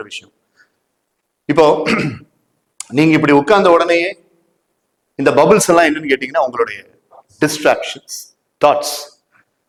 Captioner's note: clears throat